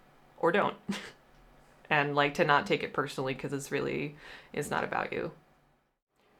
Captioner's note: chuckle